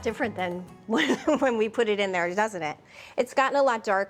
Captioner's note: chuckles